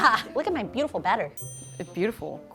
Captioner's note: bell dinging